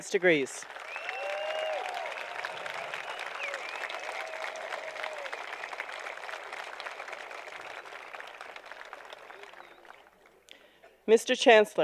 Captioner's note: applause